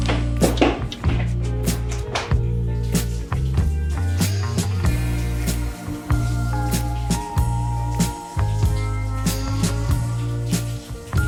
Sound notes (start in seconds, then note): 2.3 sounds of shower and making out